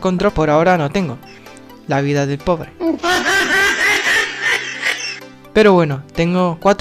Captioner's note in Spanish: mujajajajajaja